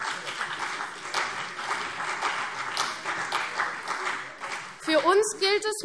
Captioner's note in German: Beifall CDU und vereinzelt BÜNDNIS 90/DIE GRÜNEN